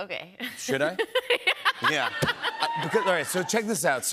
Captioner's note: laughing